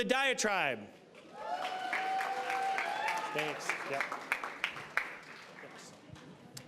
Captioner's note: applause, cheering